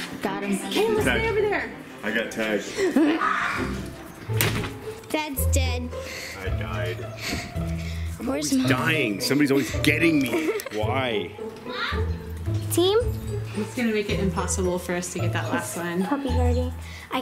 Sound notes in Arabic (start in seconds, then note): 3.1 صراخ; 8.6 يضحك